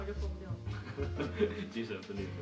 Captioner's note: laugh